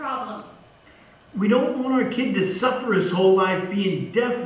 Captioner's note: voice on phone